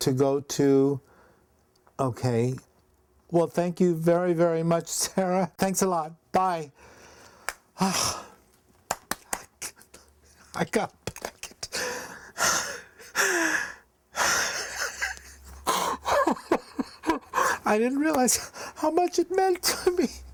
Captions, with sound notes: I'm to go to... Okay. Well, thank you very, very much, Sarah. Thanks a lot, bye. (sighs) (claps) I got a packet. (sobs) I didn't realize how much it meant to me,